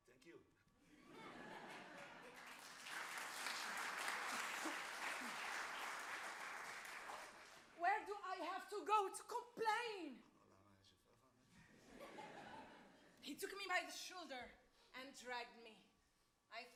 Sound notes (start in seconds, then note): 1.0 audience laughs and applauds; 11.1 man mumbles in Arabic; 11.8 audience laughs